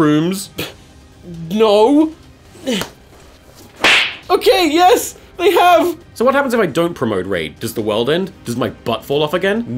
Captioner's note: slap